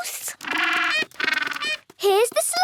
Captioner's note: honking